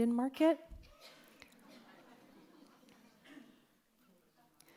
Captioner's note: audience chuckles